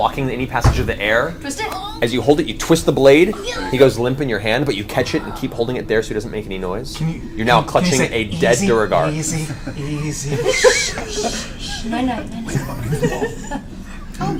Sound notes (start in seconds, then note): 11.4 shushes